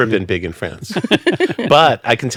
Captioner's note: laughing